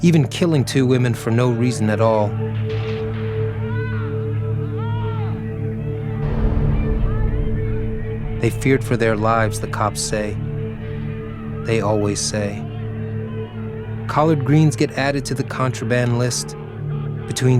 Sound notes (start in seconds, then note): 2.6 gunfire blasting; 3.0 officers shouting